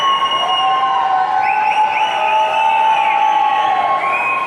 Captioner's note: audience cheering